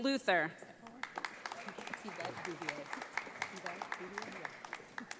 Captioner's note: audience applauds